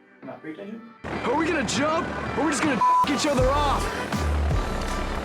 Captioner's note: beep; plane engine roaring